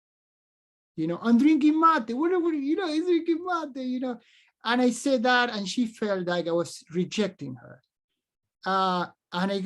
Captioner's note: speaks spanish